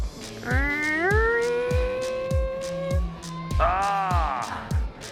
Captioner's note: imitating tires screeching